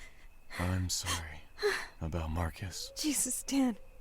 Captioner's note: surprised gasp